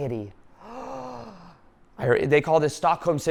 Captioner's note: gasping loudly